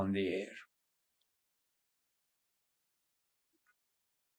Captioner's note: pauses 6 seconds